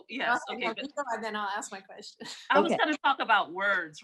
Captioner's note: chuckles